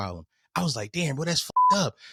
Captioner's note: beep